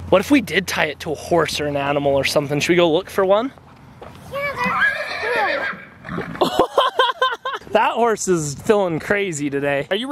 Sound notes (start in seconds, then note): 4.5 horse neighs; 6.4 laughs